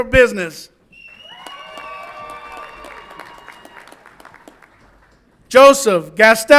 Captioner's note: audience applauds and cheers